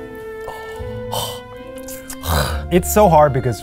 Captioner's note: both gagging